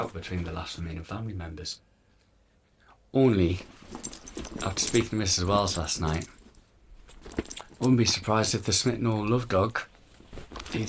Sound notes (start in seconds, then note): none